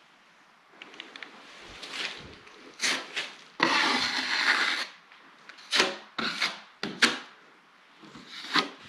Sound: drywall mudding sound

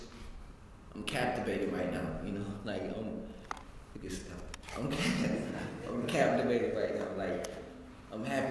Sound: laugh

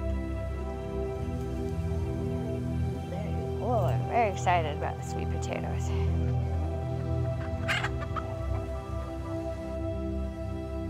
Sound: hens

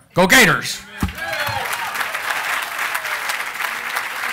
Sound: applause

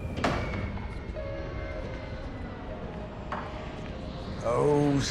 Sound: airplane

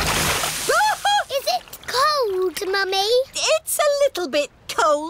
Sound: shrieks

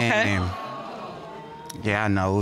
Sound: audience exclaiming

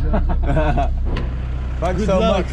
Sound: everyone laughing

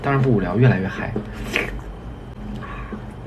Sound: slurp

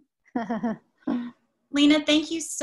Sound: laughs

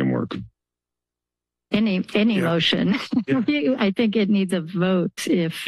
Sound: laughter

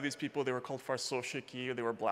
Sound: speaking Russian

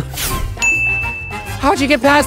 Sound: bell dings

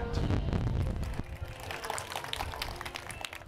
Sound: applause

